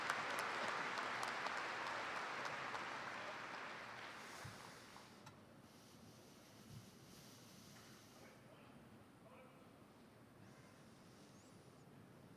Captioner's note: cheers and applause